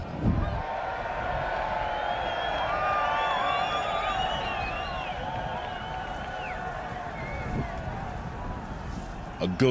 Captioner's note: Χειροκρότημα